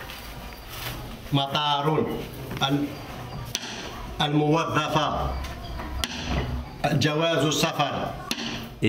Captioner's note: audio in Arabic